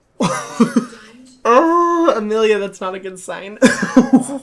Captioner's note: laughing